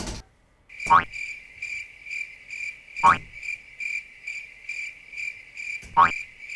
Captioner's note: keyboard clattering; keys bouncing; crickets chirping